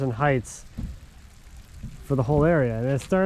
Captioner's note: rain pattering